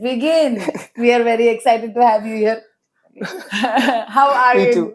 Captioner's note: laughs